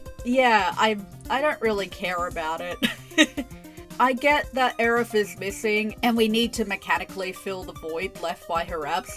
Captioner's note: laugh